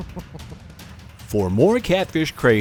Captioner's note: laughter